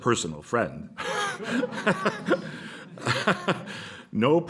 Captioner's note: laughter